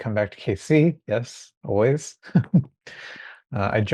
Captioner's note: chuckling